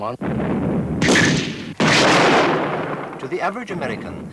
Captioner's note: mortars exploding